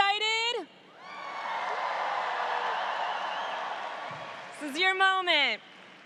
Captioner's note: audience cheers